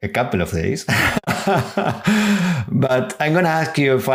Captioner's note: laughter